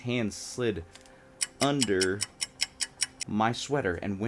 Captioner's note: clock ticking